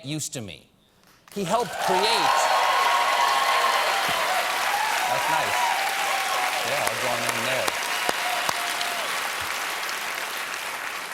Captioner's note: cheers and applause